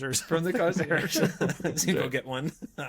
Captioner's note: laughing